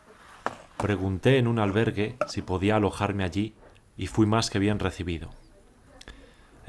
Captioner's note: voiceover